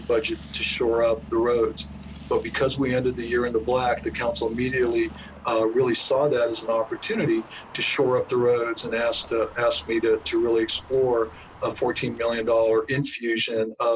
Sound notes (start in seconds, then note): 6.5 traffic humming